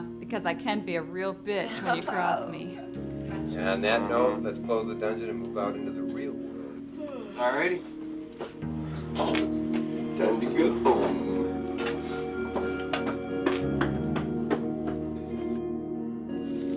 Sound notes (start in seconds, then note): 7.0 Nancy yawns; 9.2 somber music; 12.4 somber music continues